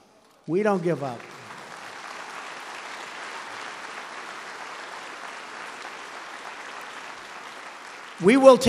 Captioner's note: applause